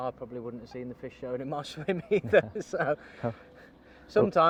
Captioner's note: laughs